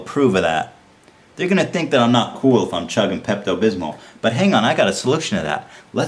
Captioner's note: sarcastically